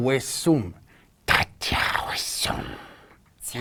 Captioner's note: alien sounds